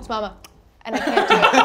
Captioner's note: tongue clicks